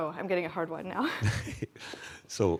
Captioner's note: laughing